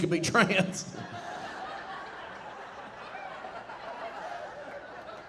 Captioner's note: audience laughing